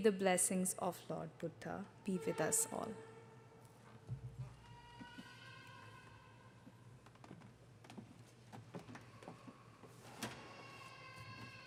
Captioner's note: speaking native language